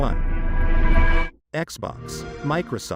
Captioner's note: xbox sound